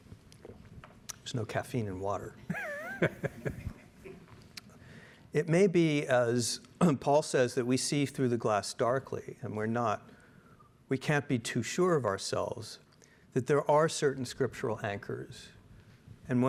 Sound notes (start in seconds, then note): 2.5 laughing